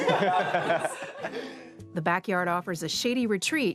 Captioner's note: they laugh